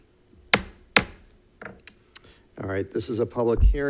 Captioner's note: gavel bangs